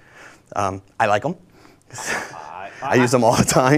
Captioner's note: laughs